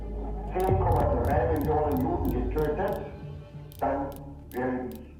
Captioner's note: Eichmann speaking German